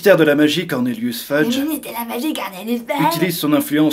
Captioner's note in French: imitation voix grotesque